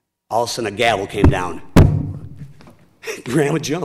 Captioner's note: banging